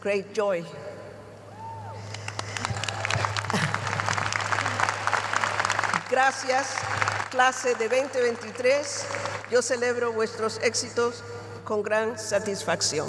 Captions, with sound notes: I salute your success with great joy. [ Cheers and applause ] [ Speaking in Spanish ]